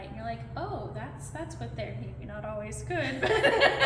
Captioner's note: laughter trails off